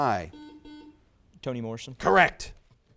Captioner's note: buzzer buzzes